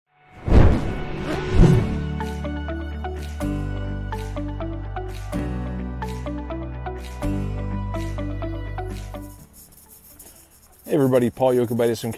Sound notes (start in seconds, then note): 0.4 explosion; 2.4 upbeat music